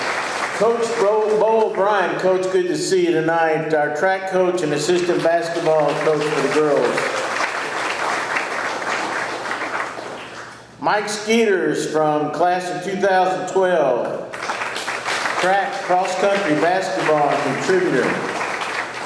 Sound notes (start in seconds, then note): 7.0 audience clapping; 14.2 audience clapping